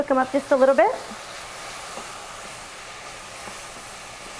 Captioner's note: sound of mushrooms sizzling